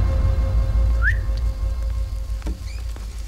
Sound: whistling

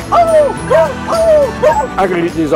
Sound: dog barking

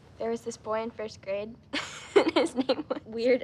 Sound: laughing

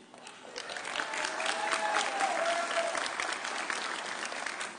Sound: audience cheering

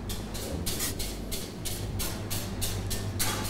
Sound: stirring

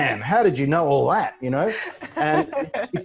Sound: laughing

